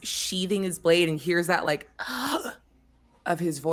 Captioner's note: gasps